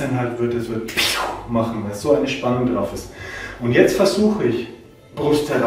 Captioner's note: snap